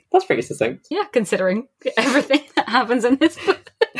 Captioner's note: laughing